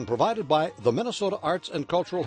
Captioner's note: voiceover